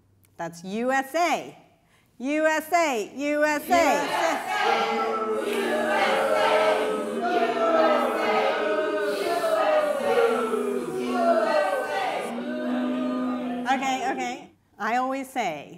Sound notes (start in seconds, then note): 12.6 audience chants USA! USA! Boo!